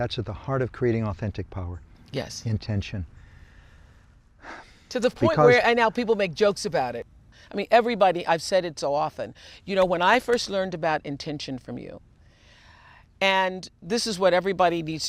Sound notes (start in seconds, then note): 4.4 sighs